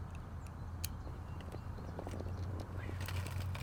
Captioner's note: birds chirping